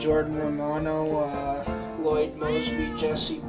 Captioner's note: cat meowing